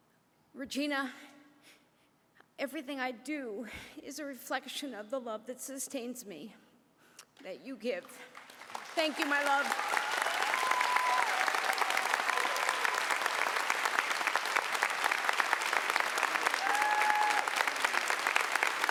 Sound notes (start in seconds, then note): 13.3 applause